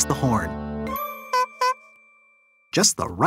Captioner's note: honking